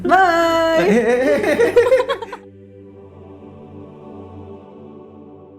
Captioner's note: laugh